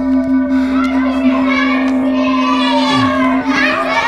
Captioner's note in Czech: děti křičí